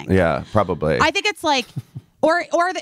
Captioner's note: chuckling